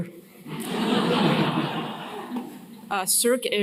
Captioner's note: laughter